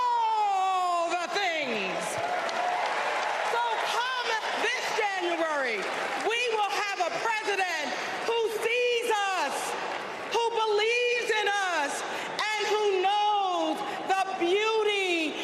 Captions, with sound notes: TOGETHER TO SAY, NOT ON OUR WATCH. [ APPLAUSE ] NOT ON OUR WATCH. SO WE WILL ORGANIZE, AND WE WILL MOBILIZE, AND WE WILL WIN